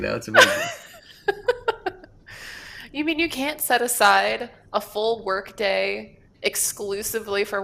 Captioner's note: laughs